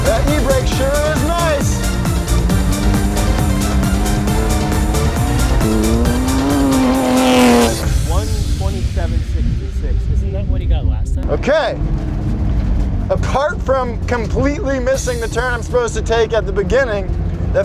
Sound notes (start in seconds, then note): 2.6 upbeat intense dance music; 6.6 car roaring